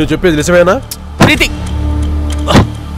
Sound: banging the door

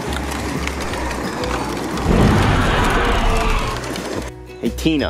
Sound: dinosaur roars

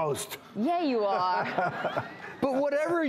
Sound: laughter

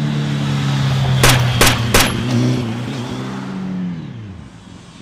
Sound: guns firing

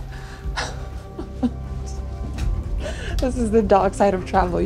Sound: chuckles

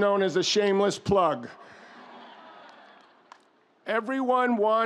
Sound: audience laughs

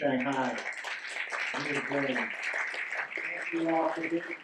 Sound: audience clapping drowns out speaker

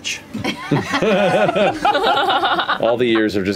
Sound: laughter

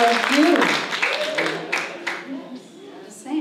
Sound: applause

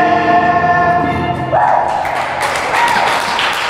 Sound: applause

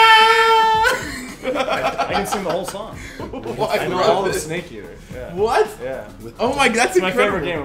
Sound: laugh

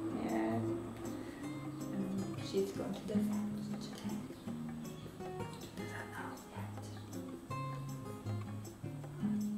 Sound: whispers

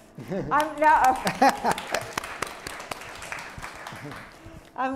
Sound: applause

